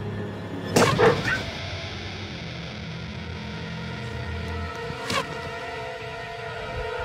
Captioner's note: dog yelps